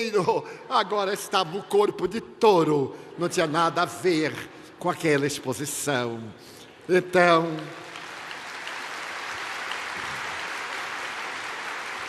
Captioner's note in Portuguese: aplausos